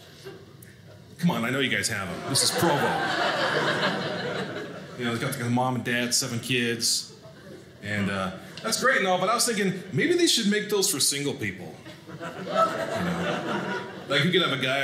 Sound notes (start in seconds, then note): 2.0 audience laughing